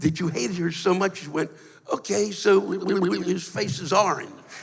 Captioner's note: blubbers; laughter